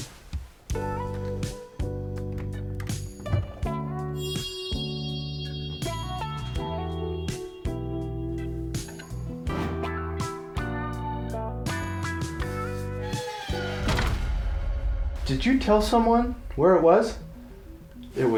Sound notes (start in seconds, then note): 0.1 gentle sultry upbeat music; 4.2 tense music; 7.0 gentle sultry upbeat music; 9.8 door thuds; 11.6 gentle sultry upbeat music; 13.0 tense music; 13.7 door thuds